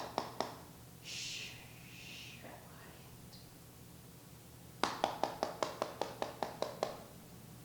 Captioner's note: knocks with fist; knocks with fist